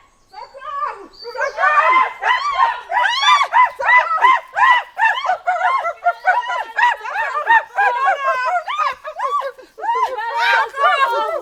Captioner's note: animals screaming